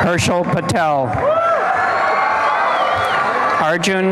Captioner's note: applause and cheering